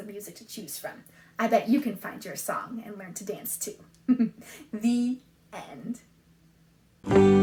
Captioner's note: laughs